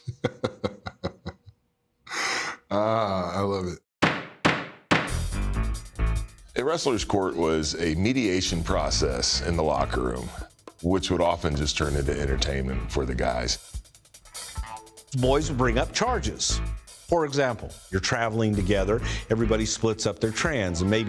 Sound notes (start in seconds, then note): 0.0 laughs; 4.0 gavel hammers